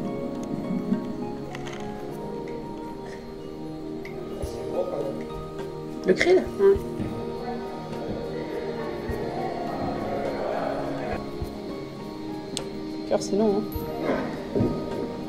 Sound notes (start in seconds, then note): 2.9 in french